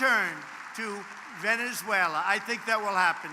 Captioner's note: applause